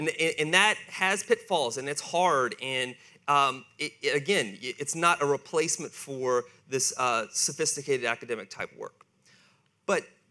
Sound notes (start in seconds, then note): none